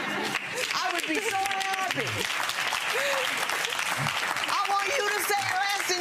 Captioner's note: audience clapping